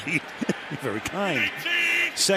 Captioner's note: chuckles